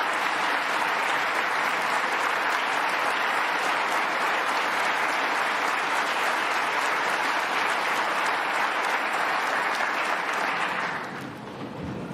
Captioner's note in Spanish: aplausos